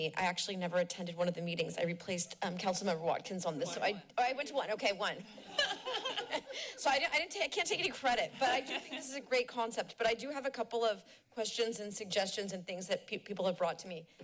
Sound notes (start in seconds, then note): 5.3 laughs